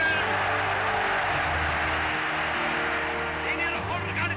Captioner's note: applause